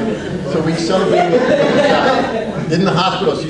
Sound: audience laughs

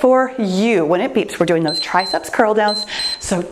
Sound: timer beeps

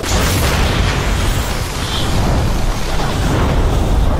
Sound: thunder cracking

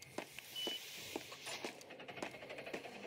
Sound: door Opens

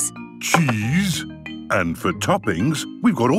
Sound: none

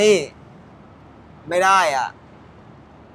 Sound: in Thai

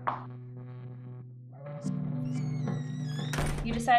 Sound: door opening

